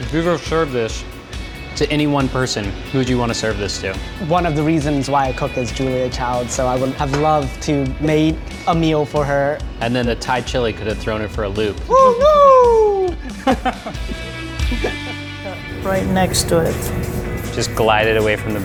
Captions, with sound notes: If you could serve this to any one person, who'd you wanna serve this to? - One of the reasons why I cook is Julia Child. So I would have loved to made a meal for her. - And then the Thai chili could've thrown her for a loop. Oh no! (laughs) (upbeat music)